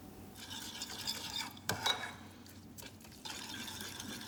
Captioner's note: spoon stirring